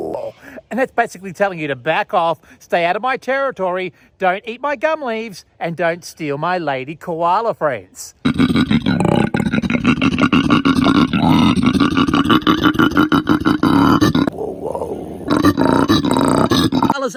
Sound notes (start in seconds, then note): 8.3 koala grunts; 14.4 instructor grunts; 14.4 koala grunts